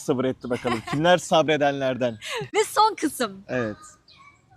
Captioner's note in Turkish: kahkaha